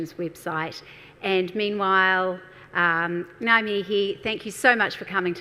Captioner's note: speaks in a foreign language